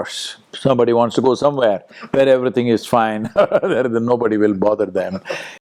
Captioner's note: laughs